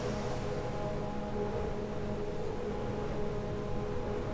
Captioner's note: wind blowing